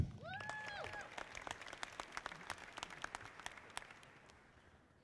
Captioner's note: audience applauding